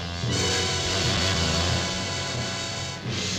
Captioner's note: menacing orchestral music; wasp buzzing